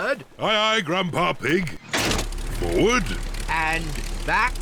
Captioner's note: lever clunks